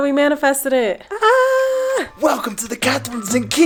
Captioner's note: screaming